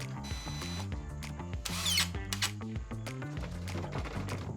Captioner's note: drill beeping